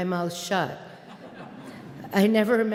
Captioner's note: audience laughing